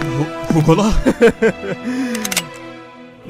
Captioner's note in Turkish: gülme sesi